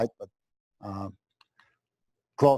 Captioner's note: pause